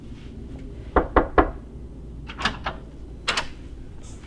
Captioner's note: knocking